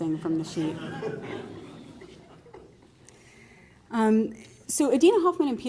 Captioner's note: laughter